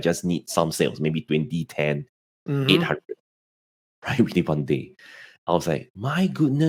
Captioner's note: speaking faintly